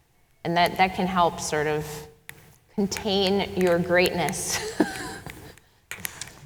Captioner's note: chuckles